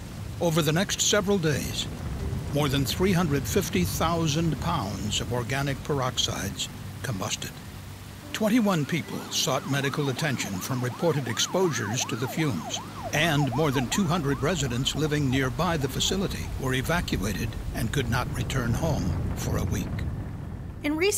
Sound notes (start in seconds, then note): 12.2 sound of sirens; 19.5 sound of fire raging